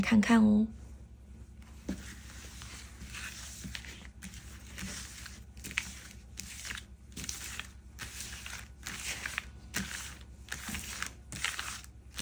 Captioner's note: shuffling cards